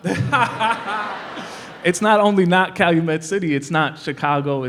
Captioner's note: laughter